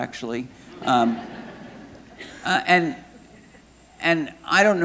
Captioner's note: audience laughing